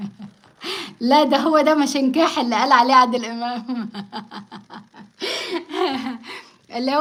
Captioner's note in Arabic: ضحك